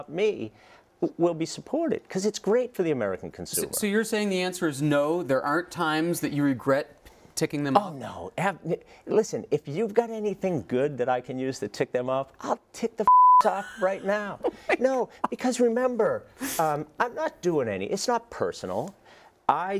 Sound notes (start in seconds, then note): 13.5 laugh